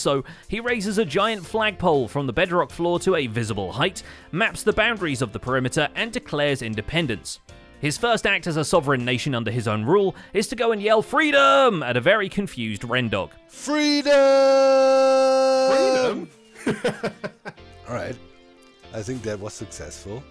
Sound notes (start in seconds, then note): 16.5 laughs